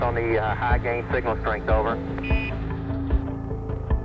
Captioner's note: device beeps